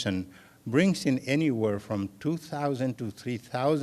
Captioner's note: none